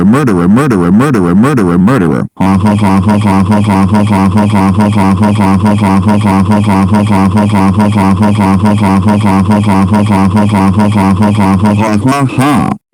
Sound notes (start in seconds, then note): 2.3 Boris laughing